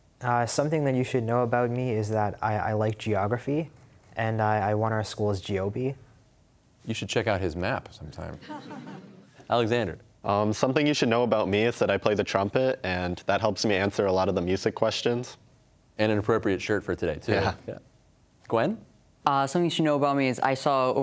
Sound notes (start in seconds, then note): 8.3 laughter; 17.3 chuckling